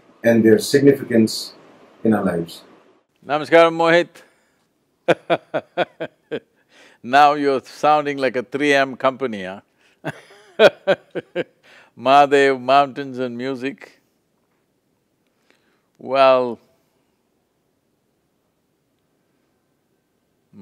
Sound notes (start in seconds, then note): 5.1 laughs